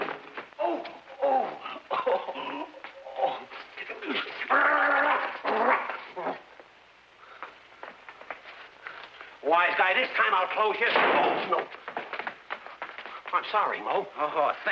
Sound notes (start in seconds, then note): 3.0 Shemp grunting; 10.9 broom thudding